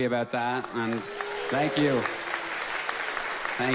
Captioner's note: audience claps